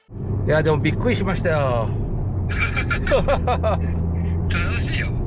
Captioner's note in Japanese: 笑い